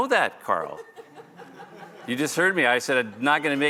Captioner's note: laughter